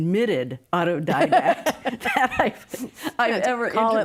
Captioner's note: laughs